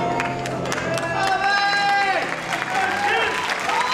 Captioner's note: cheering